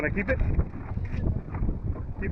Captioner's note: wind blowing